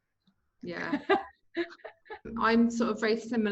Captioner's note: laughing